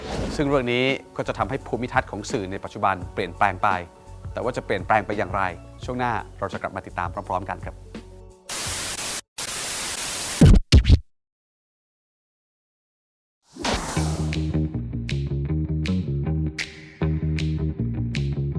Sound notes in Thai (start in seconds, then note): 8.4 เสียงโทรทัศน์; 9.4 เสียงเอฟเฟ็กต์; 13.5 เสียงเอฟเฟ็กต์